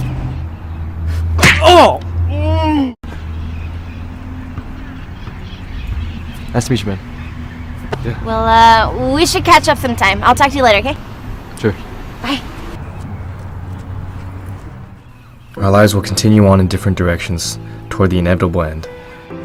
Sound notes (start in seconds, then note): 2.2 moans